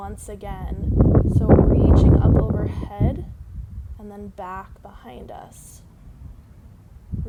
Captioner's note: wind